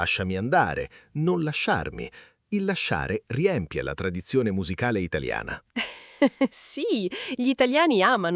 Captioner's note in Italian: risate